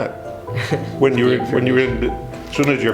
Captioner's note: laughs